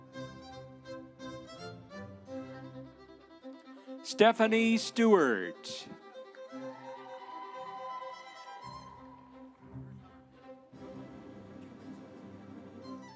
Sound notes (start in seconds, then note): 6.5 audience cheering; 7.5 instrumental music